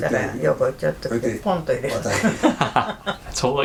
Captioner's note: laughs